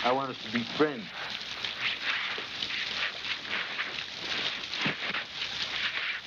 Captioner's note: water splashing